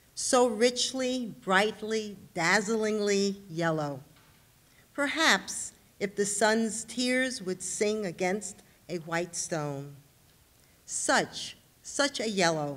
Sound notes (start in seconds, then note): none